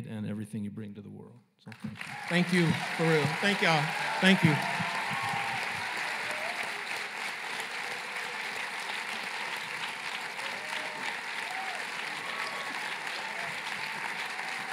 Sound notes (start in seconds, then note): 5.0 applause and cheering; 9.4 applause